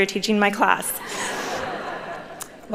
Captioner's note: chuckles